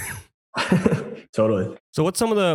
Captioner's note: laughs